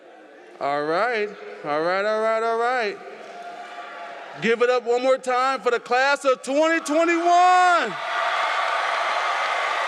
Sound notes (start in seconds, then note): 8.3 applause